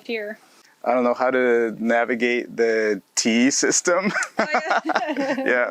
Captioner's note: both laughs